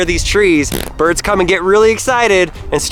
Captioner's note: fart noise